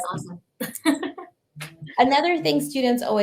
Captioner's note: laughing